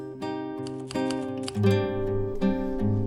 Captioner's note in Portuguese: Datilografar